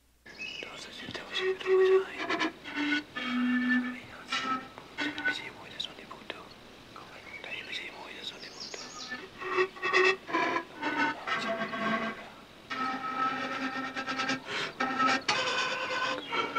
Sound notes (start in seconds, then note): 0.6 person whispering in foreign language; 1.8 soft flute music